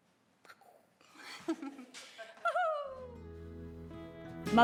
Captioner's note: chuckles